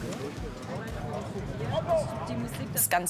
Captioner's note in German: Stimmengewirr